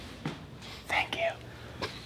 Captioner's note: whispering